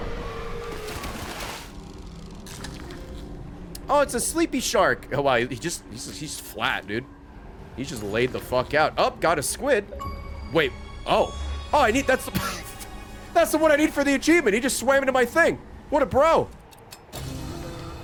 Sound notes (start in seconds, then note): 12.7 laughs